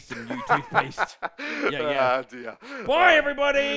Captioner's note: laughs